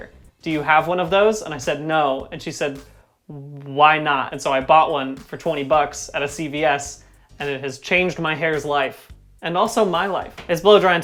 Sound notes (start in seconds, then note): none